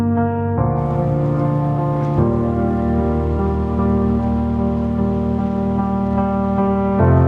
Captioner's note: rushing water